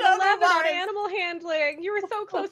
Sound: laughter

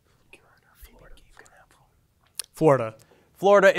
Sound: students whispering

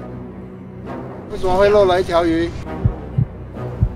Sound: in mandarin

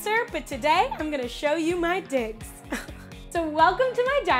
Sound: laughs

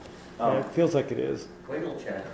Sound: voiceover

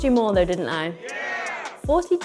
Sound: crowd

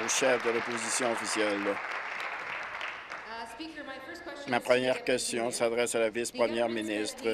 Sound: applause

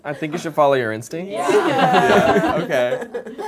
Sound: laughter

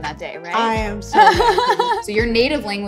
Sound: laughs

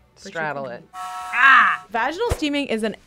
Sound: kettle whistles

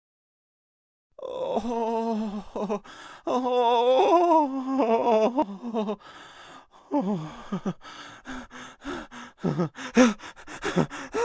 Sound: sound of terrified male voices

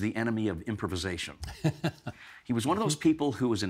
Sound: laughing

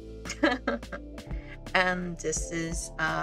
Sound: silly laugh

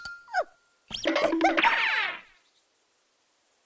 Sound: yelping

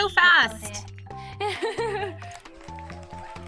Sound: laughs

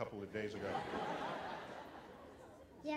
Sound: laughter

